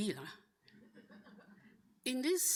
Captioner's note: audience laughing